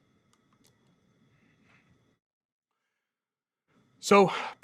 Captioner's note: computer mouse clicking